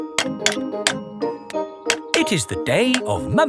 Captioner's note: clanking